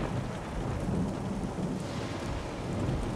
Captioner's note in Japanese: 雷鳴